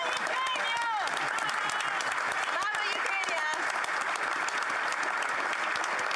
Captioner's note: applause